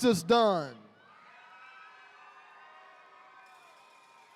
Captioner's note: attendees cheering